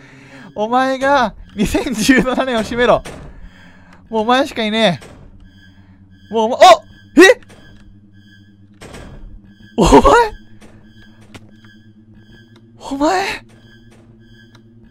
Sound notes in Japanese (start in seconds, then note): 9.8 驚き